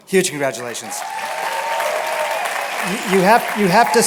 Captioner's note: applause and cheering